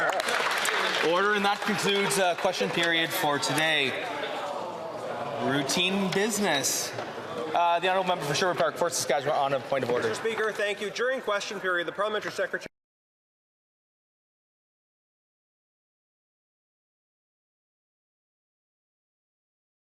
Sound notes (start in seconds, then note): 4.1 some Applause